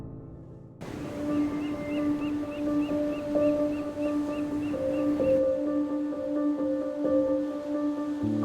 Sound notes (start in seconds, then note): 0.0 contemplative music; 0.8 waves crashing